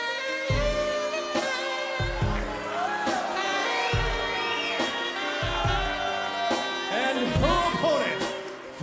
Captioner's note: crowd cheering